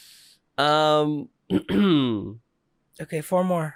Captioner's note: ahem